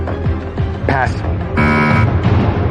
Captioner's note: buzzer sounds